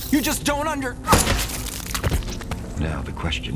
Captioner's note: blood splatters